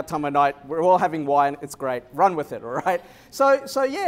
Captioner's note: laughter